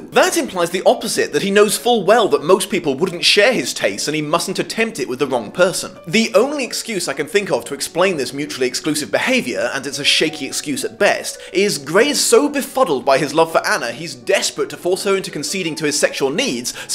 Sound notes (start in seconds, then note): none